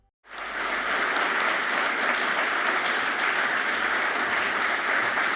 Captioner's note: audience clapping loudly